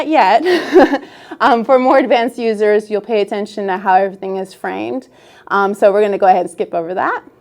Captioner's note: laughs